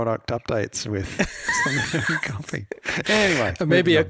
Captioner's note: both laughing